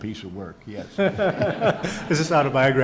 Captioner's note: audience laughs